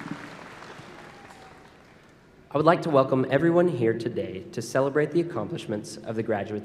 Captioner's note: applause